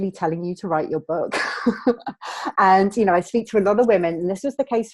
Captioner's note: laughing